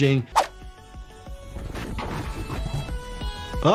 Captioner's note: air whooshing; mellow music; hat clattering